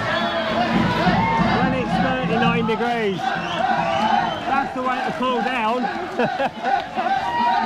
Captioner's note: laughter